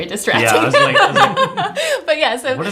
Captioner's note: laughing